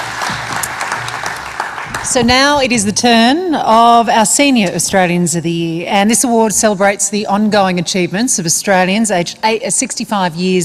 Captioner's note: applause